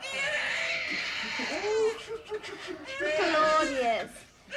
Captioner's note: baby wails